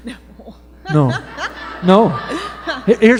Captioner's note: laughter